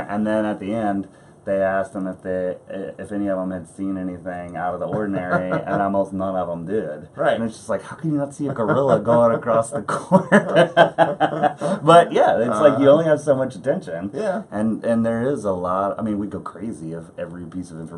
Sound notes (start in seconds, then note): 9.8 laughs